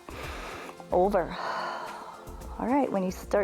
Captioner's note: exhales